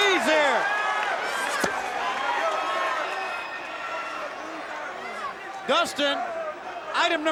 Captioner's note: applause